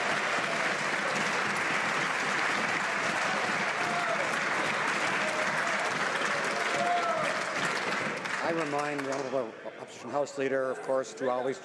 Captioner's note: some Applause